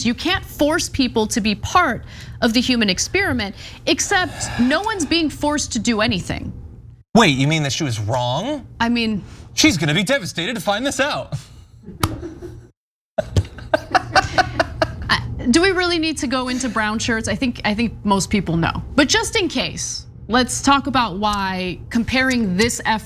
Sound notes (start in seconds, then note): 13.2 laugh